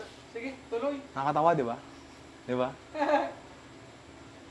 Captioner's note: laughs